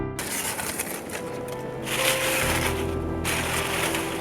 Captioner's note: leaves rustling